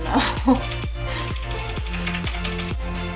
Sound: laughing

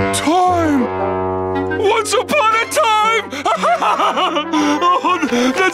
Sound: laughing

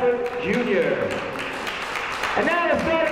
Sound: clapping

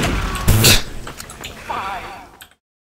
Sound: noises indicating humour

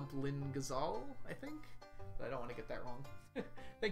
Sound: chuckles

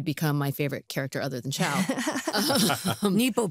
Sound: laughter

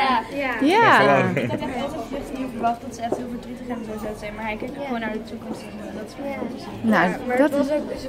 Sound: half mumbling

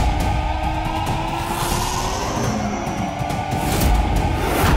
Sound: wind whooshing

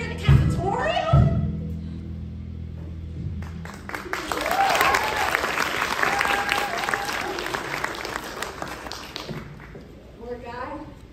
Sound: applause

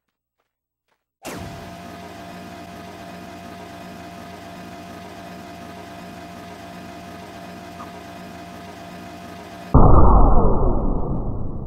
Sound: laser blasting sound

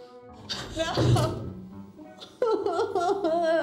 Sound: cries

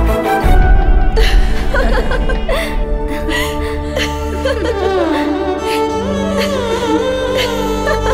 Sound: laughing

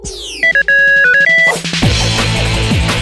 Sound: beeping; theme music playing

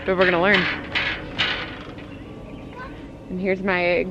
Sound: metal clanging

